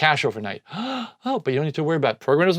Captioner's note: gasps